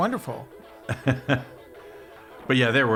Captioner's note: laughing